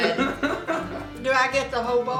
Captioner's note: laughing